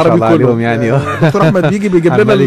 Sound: laugh!

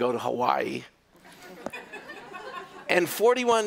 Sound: laughter

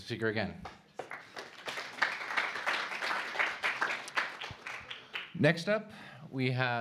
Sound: applause

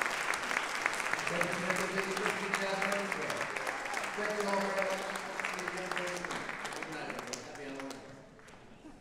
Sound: applause drowns speech

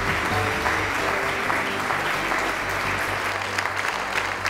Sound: applause

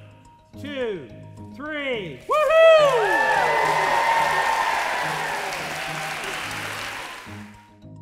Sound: applause

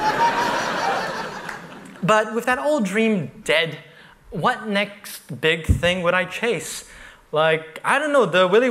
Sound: laughter

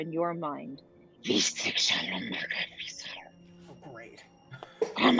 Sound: Talron speaking in foreign language

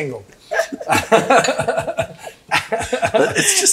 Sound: group laughs

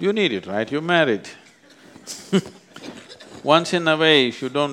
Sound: laughs

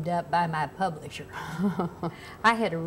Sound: laugh

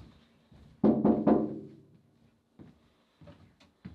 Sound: door knocking

